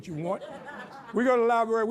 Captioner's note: audience laughs